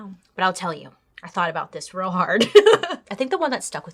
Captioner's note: laughs